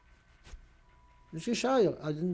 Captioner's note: yiddish